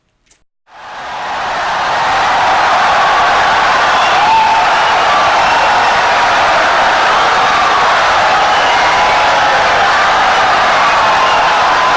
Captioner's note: wild applause and cheering for 17 seconds